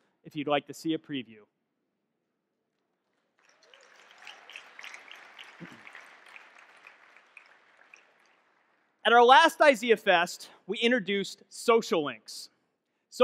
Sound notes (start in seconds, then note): 2.9 audience clapping